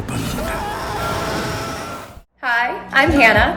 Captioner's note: boy screaming